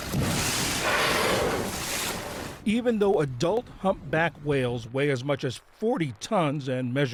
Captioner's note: voice-over